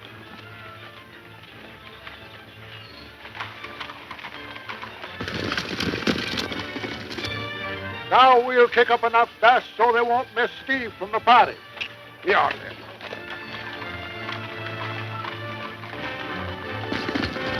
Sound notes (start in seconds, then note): 6.1 horse galloping; 14.6 dramatic music